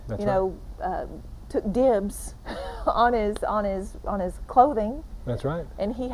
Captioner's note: chuckling